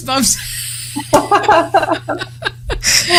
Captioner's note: laughter